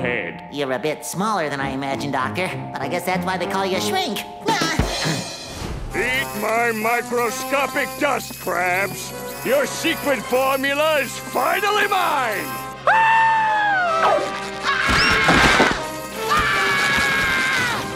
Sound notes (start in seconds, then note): 4.4 laughing; 12.8 screaming